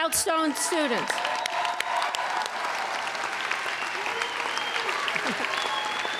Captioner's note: applauding and whistling